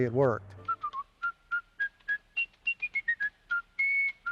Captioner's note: whistling to music